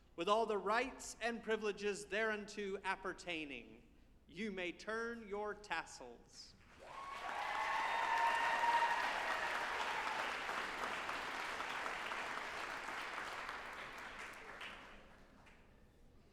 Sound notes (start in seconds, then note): 6.7 group applauding and cheering